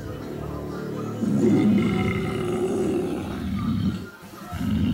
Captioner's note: sighing